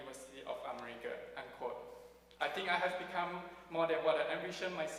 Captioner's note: none